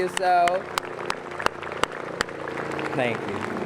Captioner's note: applause